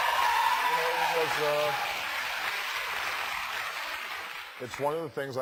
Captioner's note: applause